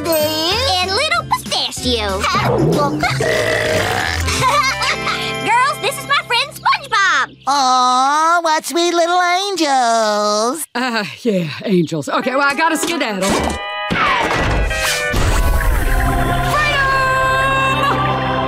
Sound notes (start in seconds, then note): 2.4 belches and giggles; 10.7 chuckles